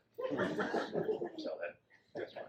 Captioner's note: audience laughs